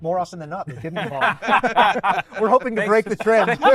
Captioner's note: all laughing